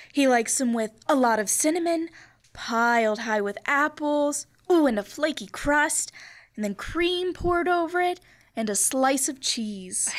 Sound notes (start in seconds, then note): none